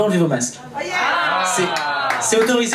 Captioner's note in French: joie du public